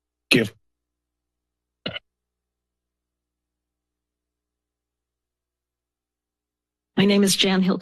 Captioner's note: silence